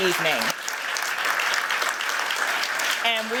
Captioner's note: applause